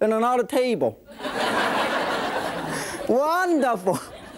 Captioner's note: audience laughing